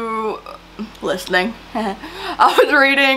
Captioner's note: laughs